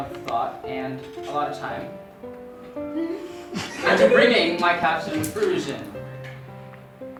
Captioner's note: giggling